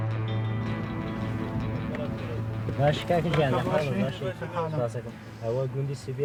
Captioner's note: speaking foreign language